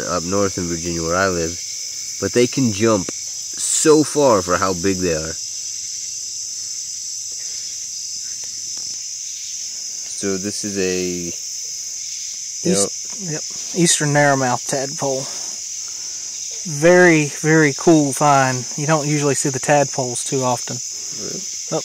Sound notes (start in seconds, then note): 6.7 swamp sounds